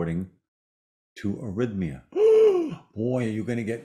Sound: gasps

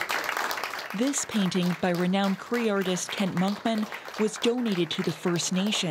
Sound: applause

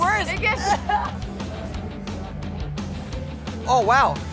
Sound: coughing

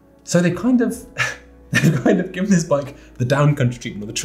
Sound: laughs

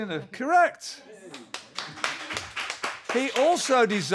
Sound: applause

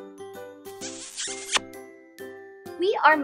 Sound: kisses

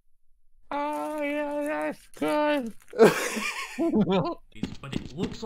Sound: imitating Carl Wheezer; laughs

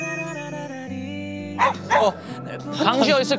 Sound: barking

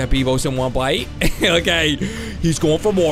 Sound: laughs

